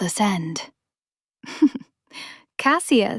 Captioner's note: chuckles